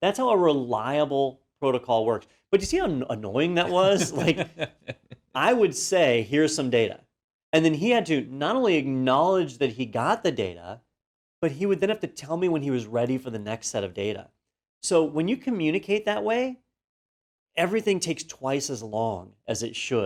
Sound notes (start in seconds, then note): 3.6 laugh